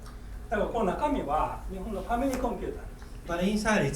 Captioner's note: speaking in foreign language